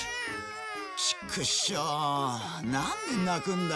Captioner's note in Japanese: 泣き声